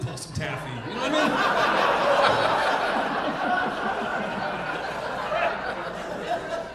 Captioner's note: audience laughing